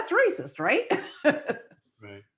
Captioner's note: laughs